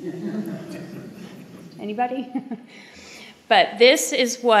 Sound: laughter

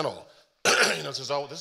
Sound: coughs

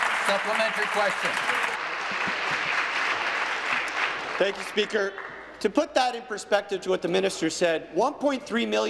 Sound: applause

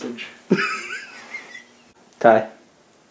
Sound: laughing

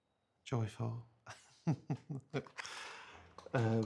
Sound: laughs

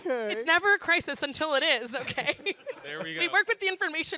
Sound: laughs

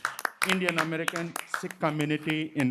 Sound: applause

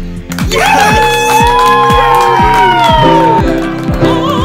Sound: upbeat music; all cheering

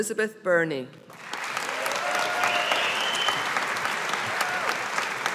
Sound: audience applauding

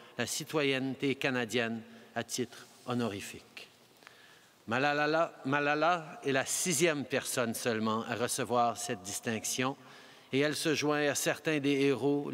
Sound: speaking french

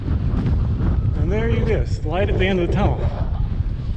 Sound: wind whooshing

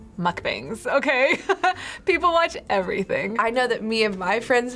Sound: laughs

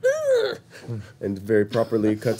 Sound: throat clearing

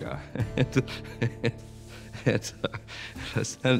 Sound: laughing

